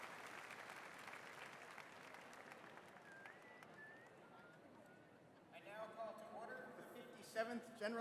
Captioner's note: applause